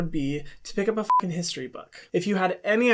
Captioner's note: beep